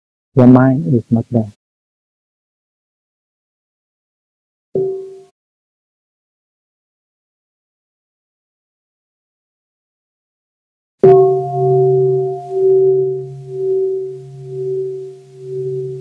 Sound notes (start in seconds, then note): 11.0 bell